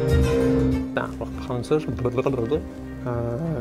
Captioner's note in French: sons de bouche